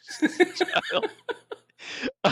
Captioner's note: laughing